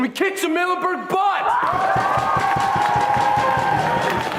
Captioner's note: cheers